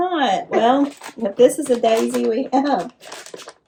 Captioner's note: laughs